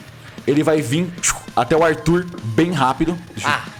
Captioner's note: pshiu